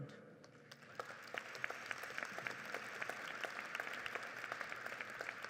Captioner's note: audience applauds